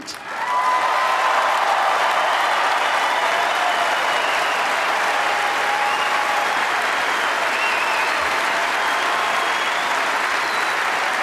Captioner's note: applause